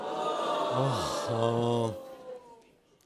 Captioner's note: sighs